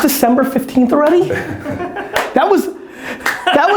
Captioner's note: laughing